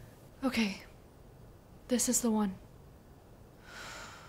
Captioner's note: sighs